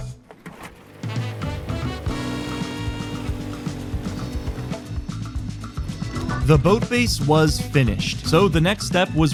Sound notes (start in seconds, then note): 0.2 outboard motor running